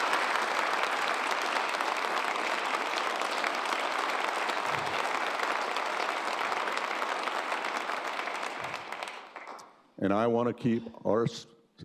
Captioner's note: cheers and applause